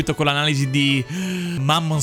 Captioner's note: deep breath